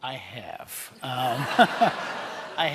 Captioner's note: laughter